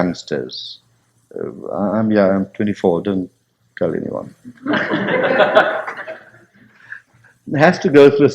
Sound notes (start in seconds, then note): 4.5 laughter